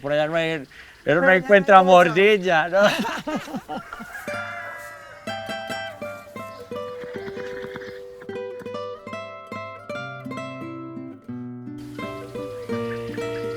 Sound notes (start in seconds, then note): 2.7 laughter; 2.7 sound of galloping horses